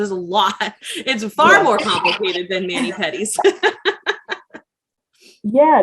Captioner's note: laughs